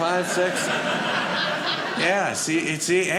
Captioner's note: audience laughing